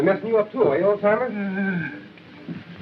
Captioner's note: moan